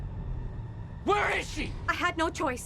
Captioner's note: screaming